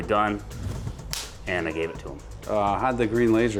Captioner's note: slaps hand